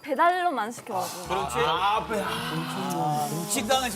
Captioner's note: deep sigh of frustration